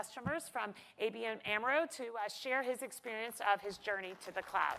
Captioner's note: applause